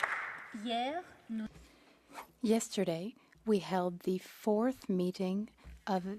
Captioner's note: some Applause